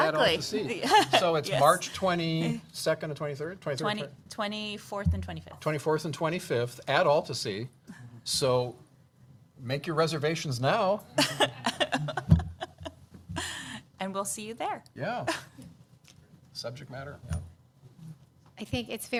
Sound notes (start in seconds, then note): 11.2 laughter